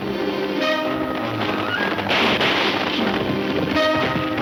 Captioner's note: gunfire pops